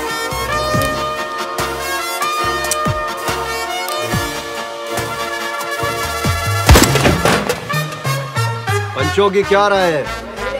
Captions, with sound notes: [Empty gun clicks] [Gunshot] What is your opinion?